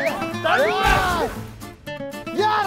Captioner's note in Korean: 풀썩